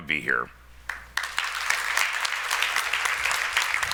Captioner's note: clapping